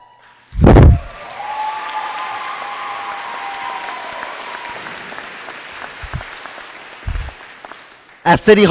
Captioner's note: applause